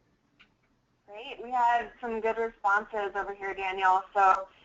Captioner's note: voiceover